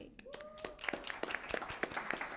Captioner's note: applause